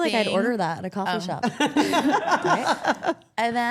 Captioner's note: everyone laughs